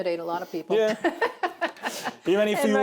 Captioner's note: laughs